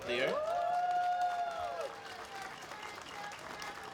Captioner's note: applause